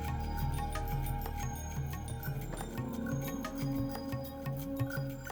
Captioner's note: none